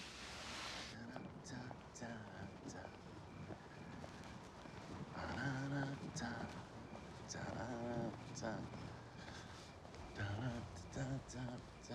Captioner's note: humming